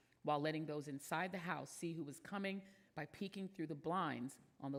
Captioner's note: none